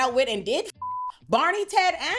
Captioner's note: beep